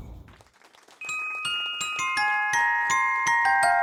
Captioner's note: audience clapping; bright upbeat music